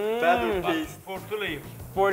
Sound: speaking foreign language; delighted hum

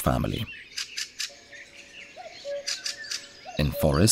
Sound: sounds of nature

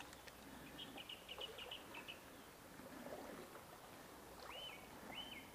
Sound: birds chirping

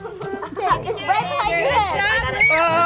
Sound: children talking and laughing

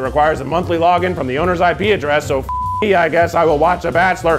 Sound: beep

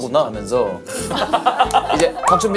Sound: burst out laughing

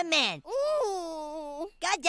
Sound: Kenny groans

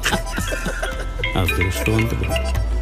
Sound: phone ringing

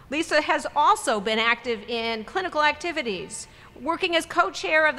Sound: none

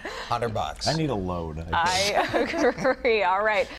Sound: laughter

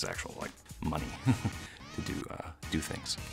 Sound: laughs

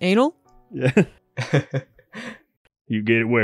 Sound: chuckle

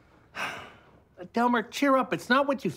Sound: sigh

